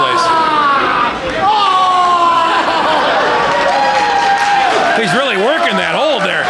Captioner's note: screams in pain; audience cheers